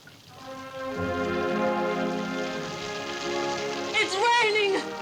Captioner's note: rain pattering; dramatic orchestral music